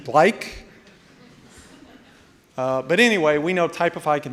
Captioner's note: audience laughing